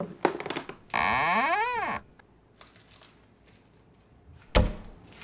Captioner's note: creaking; cabinets creaks open; rustling